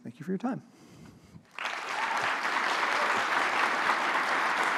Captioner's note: audience applauds